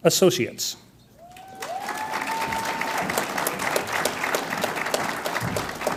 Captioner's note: audience applauds and cheers